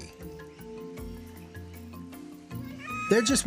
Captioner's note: cawing